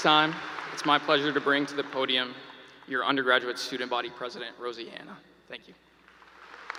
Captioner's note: applause